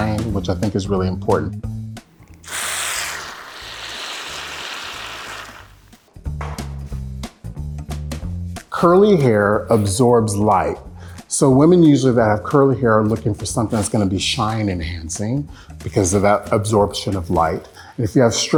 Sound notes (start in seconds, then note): 2.2 can squirting